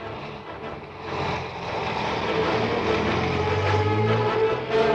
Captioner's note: engine rumbles